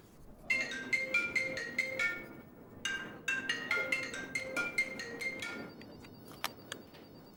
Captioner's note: phone ringing